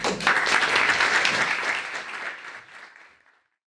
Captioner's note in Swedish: Applåder